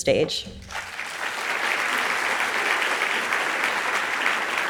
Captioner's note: audience applauds